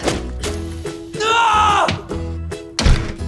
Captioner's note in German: schreit